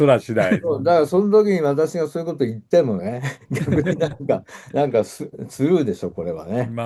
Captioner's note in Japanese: 笑い